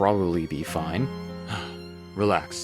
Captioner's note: sighs